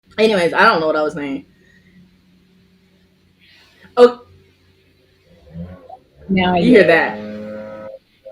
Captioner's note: lawn mower starts